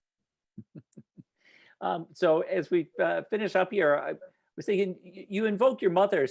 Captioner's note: chuckles